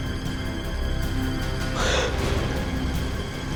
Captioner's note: gasps